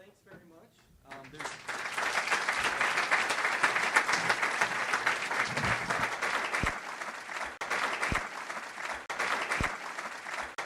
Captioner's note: audience applauds